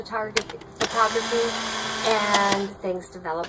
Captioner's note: film rolling